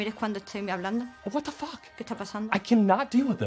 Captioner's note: speaks in english